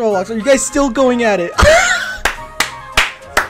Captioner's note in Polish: śmiech